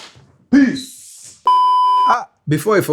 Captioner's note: beeps